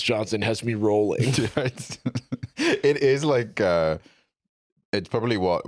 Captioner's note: laughs